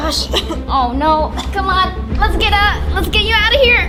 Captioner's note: coughs